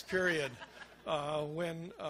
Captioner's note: crowd laughs